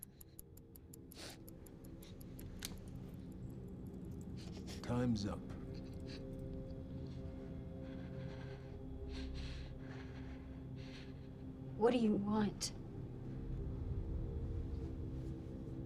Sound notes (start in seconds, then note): 0.7 sniffles